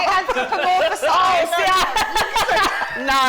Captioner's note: laughter